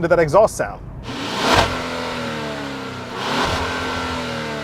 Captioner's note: exhaust whirring